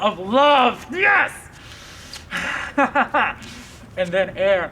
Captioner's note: laughs